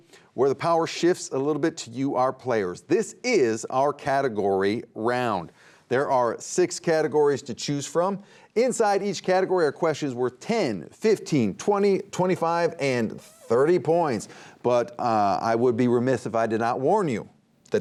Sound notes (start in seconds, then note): none